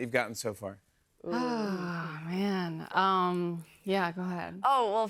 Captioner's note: sighs